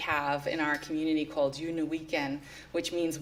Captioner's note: non-english speech